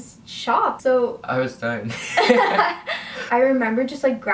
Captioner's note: laughs